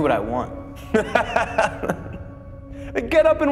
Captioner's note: Nick laughing